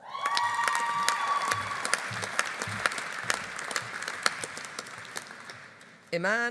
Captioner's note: audience cheering; audience applauding